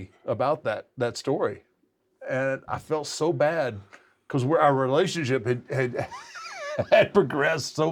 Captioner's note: laugh